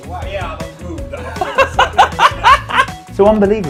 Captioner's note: laughter